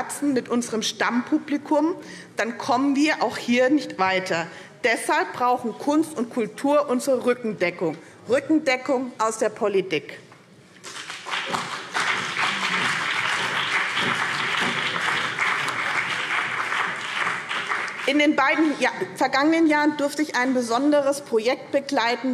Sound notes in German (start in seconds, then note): 10.8 Beifall BÜNDNIS 90/DIE GRÜNEN und vereinzelt CDU